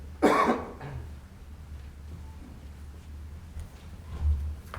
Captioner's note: participant clears throat